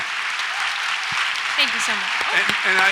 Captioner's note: audience applauds